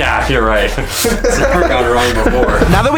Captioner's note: laughs